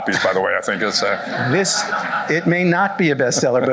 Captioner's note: laughter